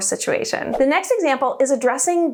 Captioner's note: air whooshing